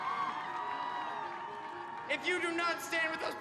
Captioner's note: crowd cheering